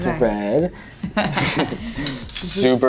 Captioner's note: both laugh